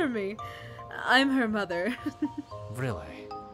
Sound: giggles

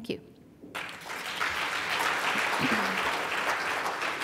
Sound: applause

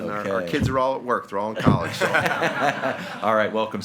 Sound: group laughing

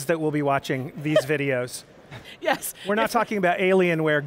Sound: laughing

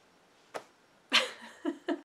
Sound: silence; laughs

